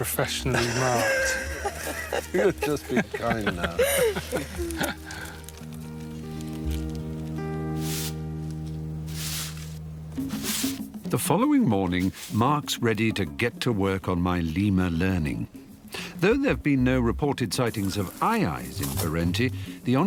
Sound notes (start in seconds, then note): 1.9 laughing; 4.8 laughing; 9.0 broom whooshing